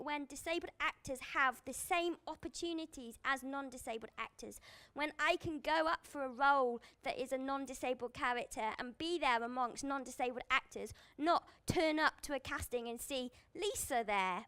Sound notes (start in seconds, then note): none